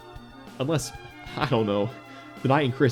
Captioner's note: hah